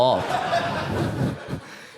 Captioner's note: audience laughs